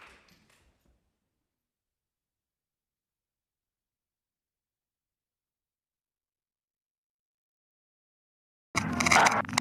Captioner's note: applause; silence